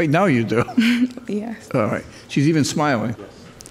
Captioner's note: chuckles; laughing